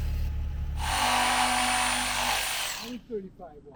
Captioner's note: saw buzzing